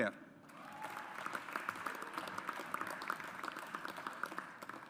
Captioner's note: audience applauds